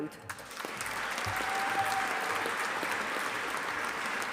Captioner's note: audience applauding